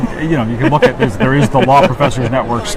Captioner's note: laughs